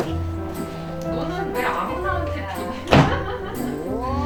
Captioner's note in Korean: 웃음